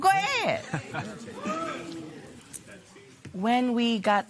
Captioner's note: spectators murmur